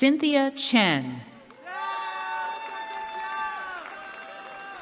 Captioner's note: cheering